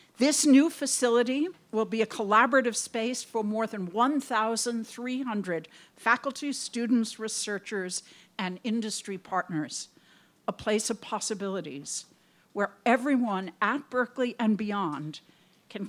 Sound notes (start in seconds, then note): none